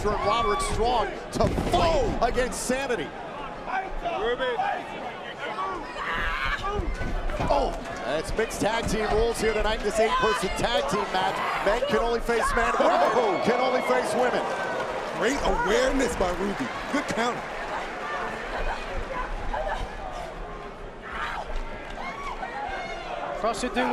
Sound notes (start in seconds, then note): 8.4 crowd chatter; 18.8 crowd chatter